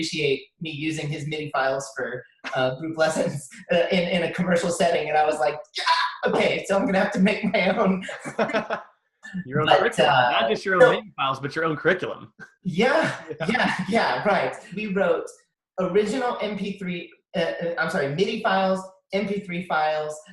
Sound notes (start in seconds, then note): 8.0 both laugh